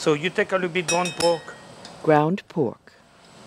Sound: voiceover

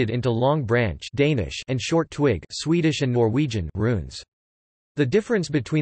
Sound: Danish

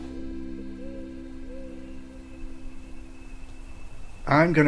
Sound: owl hooting

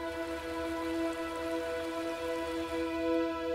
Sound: water falling

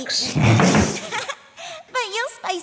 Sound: sputters; Agatha giggles

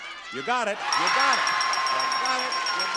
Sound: audience cheering; bell dinging

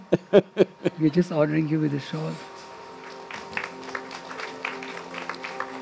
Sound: Sadhguru laughs; applause

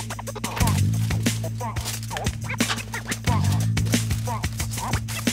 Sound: tin foil crunching

